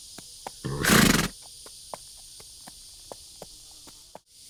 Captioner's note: horse snorting